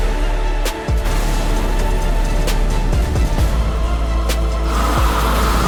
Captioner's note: fire crackling; fire whooshing